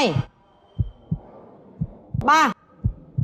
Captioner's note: heart pounding sound